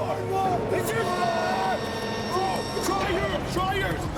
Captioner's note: group yelling